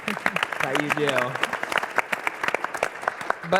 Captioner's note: applause